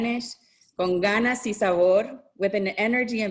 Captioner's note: speaks in Spanish